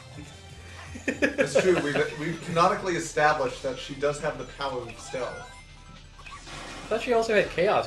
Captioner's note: chuckles